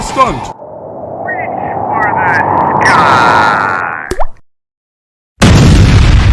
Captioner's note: volcano errupts